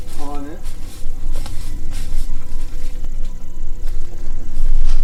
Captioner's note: leaves crunching